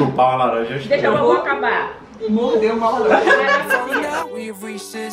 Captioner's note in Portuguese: risos